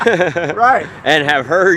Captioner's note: laughing